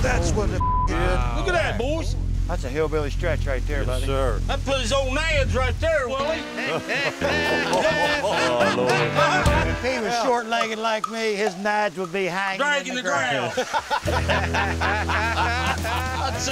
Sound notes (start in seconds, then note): 6.2 laughing; 13.2 laughing